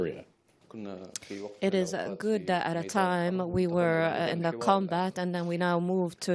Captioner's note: through translator